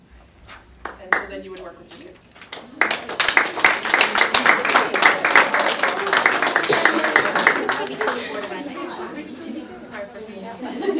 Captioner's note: audience applause